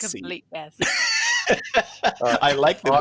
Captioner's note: laughter